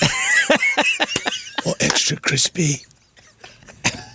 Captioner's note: laughing